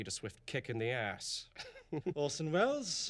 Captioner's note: chuckles